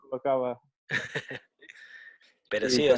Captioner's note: laughs